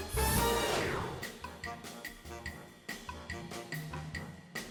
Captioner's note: graphics whooshing